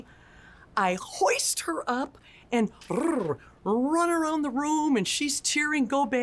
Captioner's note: brrr